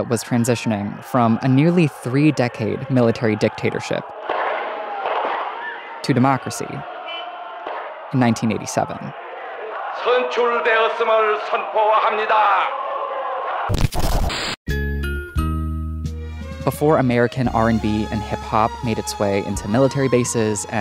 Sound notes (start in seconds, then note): 10.1 speaker speaking in Korean; 14.7 light music